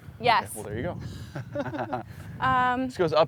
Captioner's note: laughs